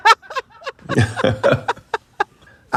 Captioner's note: laughter